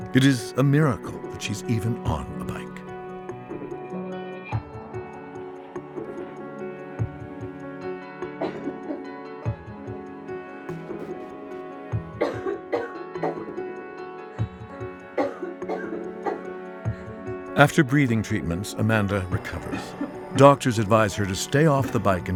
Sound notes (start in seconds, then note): 3.6 upbeat instrumental music; 8.4 coughing